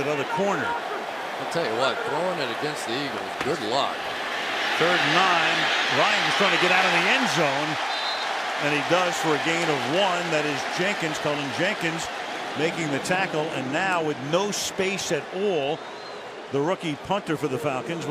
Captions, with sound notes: plays that other corner. I'll tell you what, throwing it against the Eagles, good luck. Third and 9. Ryan is trying to get out of the end zone. [whistle] And he does for a gain of 1. That is Jenkins, Cullen Jenkins making the tackle. And now, with no space at all, the rookie punter